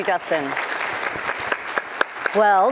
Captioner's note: applause